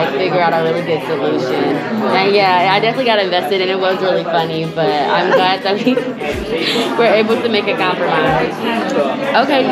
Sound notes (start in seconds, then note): 5.0 laugh